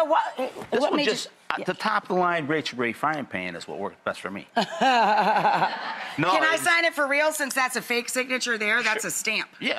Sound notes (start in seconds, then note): 4.6 laughs